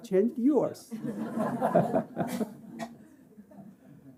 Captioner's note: laughter